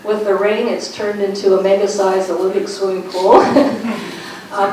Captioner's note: laughs